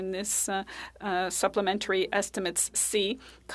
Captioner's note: speaking French